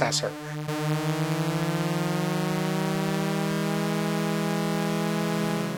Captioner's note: high pitched engine noise